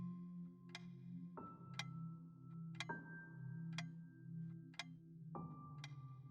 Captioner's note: ticking